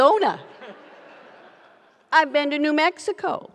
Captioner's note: audience laughs